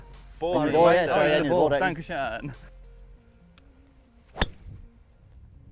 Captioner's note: speaking foreign language